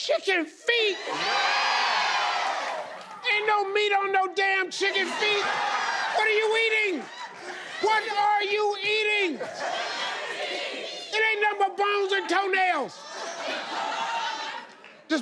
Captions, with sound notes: - Chicken feet. - [Crowd] Yes. - Ain't no meat on no damn chicken feet. (crowd laughs) What are you eating, what are you eating? - [Crowd] Chicken feet. (laughs) It aint nothing but bones and toenails? - [Crowd] No. (laughs)